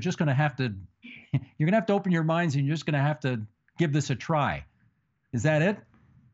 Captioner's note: laughing